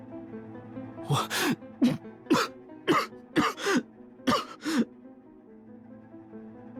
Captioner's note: cough